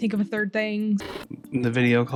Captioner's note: TV noise